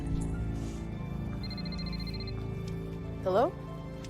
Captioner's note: phone ringing